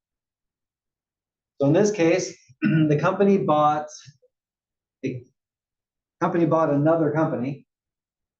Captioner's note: cough